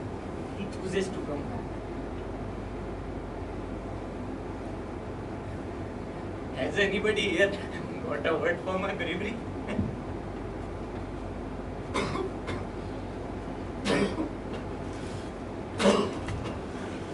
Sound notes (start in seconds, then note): 11.9 cough